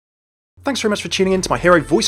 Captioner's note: voiceover